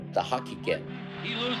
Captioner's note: soundbite of archived recording